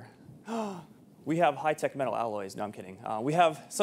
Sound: gasp

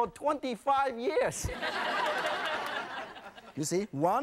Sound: laughing

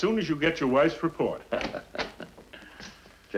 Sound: Judge Stevens chuckles

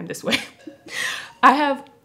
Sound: laughs

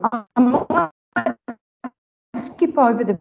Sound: audio dips

